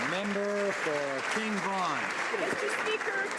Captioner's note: some Applause